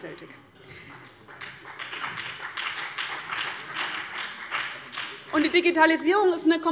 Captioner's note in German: Beifall CDU und BÜNDNIS 90/DIE GRÜNEN